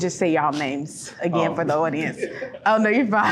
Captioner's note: laughs